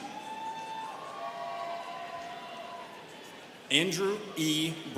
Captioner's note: students cheering